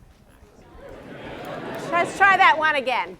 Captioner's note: mixed replies from audience